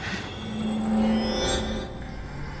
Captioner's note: sching